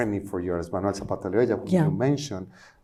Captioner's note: speaking spanish